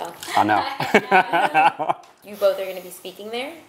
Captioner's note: laughs